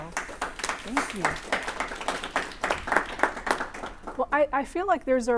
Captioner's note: applause